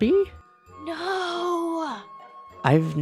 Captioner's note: whispers